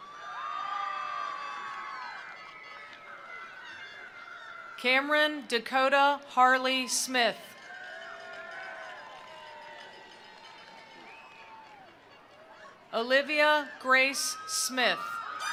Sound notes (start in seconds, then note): 0.0 attendees cheering; 0.2 attendees applauding; 7.4 attendees cheering; 7.6 attendees applauding; 15.3 attendees applauding; 15.3 attendees cheering